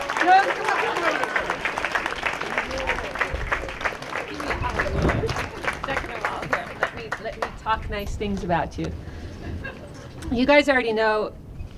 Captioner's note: applause